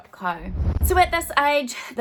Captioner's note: swooshing